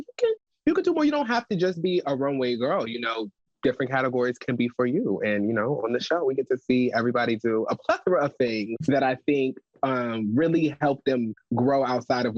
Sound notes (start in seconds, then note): 7.5 chuckles